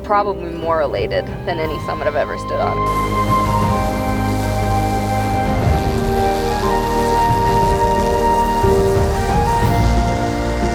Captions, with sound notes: probably more elated than any summit I've ever stood up. (otter wheel-ski whirling) (high intensity music)